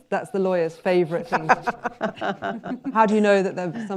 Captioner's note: laughter